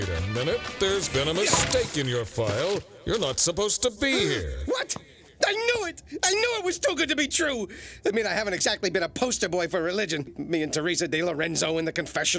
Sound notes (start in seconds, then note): 4.6 gasps